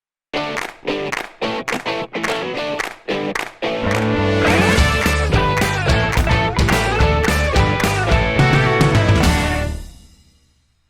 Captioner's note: applause